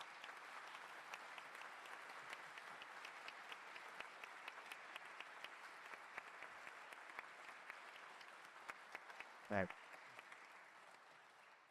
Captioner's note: applause